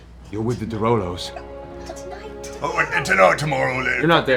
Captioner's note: quietly